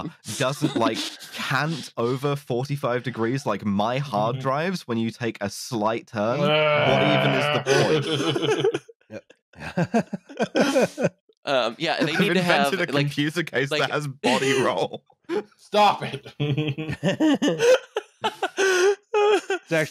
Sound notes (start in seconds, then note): 6.3 laughs; 10.7 laughs; 12.3 laughing; 13.5 laughs; 16.0 laughs; 16.2 laughter